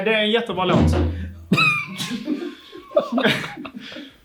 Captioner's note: guitar falls again